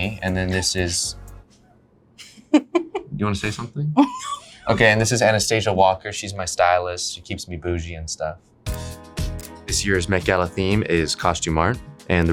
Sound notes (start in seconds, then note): 4.0 laughs; 8.7 upbeat music